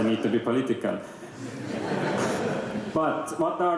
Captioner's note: laughter